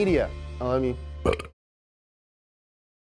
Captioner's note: belches